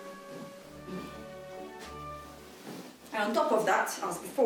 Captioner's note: footsteps